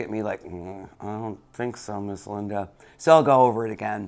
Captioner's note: grumbles